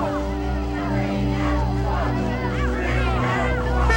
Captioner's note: crowd